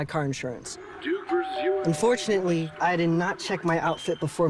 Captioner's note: bell rings